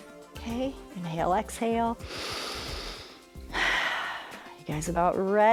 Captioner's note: inhales and exhales